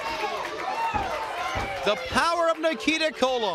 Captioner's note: crowd cheering